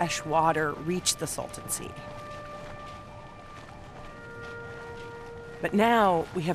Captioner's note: wind howling